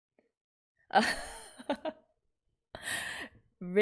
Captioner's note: laughs